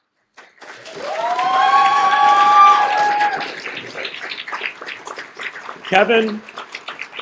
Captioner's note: cheers and applause